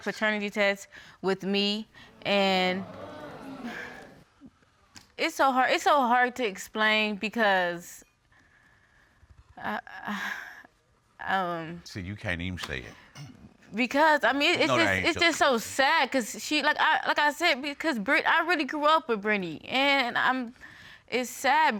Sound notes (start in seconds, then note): 2.6 audience exclaiming; 10.7 sighs